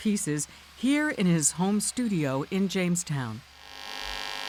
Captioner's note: machine whirring